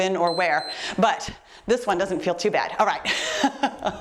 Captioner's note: timer beeps; chuckles